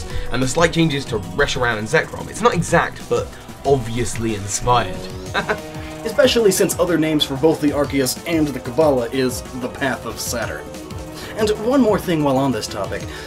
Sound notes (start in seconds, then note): 5.2 laughs